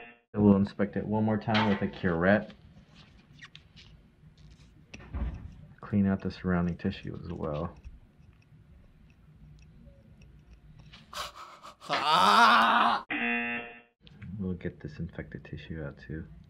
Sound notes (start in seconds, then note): 13.2 buzzer